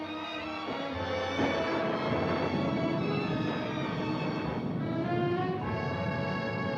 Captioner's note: gentle music continues; thunder cracking